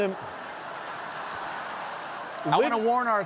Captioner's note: laughter